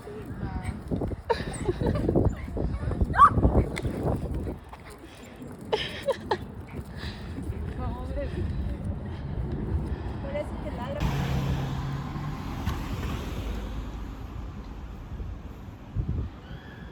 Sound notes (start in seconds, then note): 1.2 giggling; 3.2 bark; 5.6 giggling